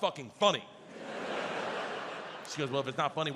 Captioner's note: audience laughs